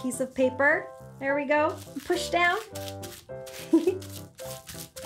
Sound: giggles

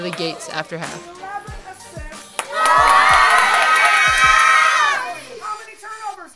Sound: cheering

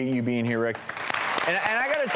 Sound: audience applauds

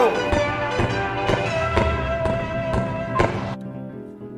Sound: angry foot stomping noises

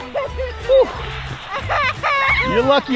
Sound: laughs

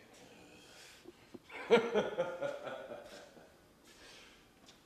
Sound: Dave laughing

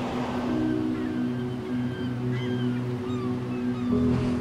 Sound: seagulls cawing

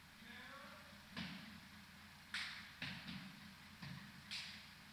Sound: feet stomping

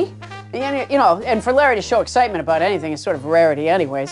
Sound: none

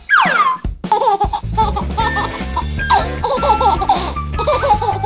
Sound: baby laughing

